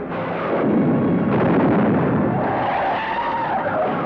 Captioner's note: gun blasts; tires screech